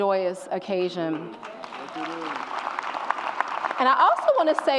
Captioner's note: audience applauds and cheers